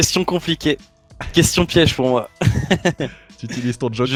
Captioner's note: laughs